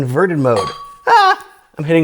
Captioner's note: glass clangs